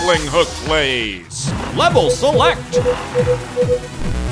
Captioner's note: beeping